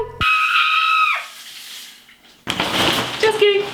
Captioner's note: screaming